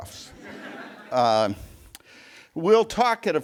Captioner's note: laughter